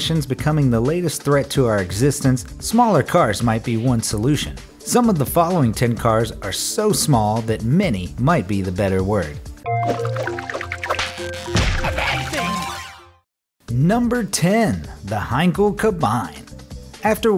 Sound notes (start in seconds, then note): 9.7 arcade game noises